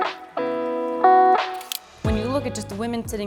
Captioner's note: camera shutter